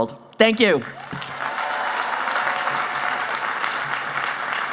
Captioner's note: applauding